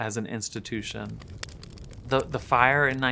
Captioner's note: flames crackling